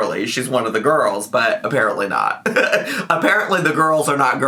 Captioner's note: laughs